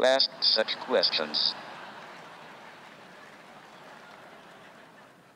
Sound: audience laughs

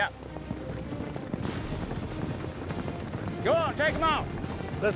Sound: hoofbeats

